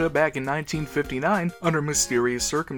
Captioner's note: none